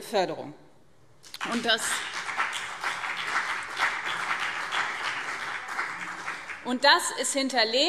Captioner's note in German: Beifall BÜNDNIS 90/DIE GRÜNEN und vereinzelt CDU